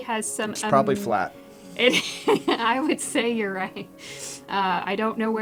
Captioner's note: laugh